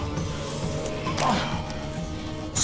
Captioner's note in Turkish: İnleme sesi